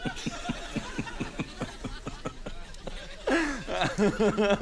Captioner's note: continues laughing